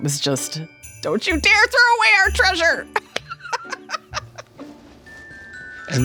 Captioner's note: laughing